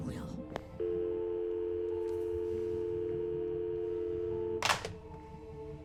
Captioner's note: dial tone